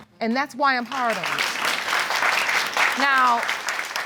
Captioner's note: applause